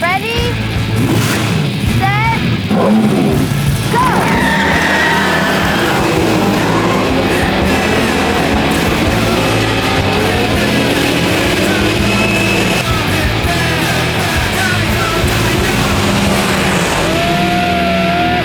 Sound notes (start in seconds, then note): 4.9 cars peeling out; 7.2 intense music; 9.1 engines roaring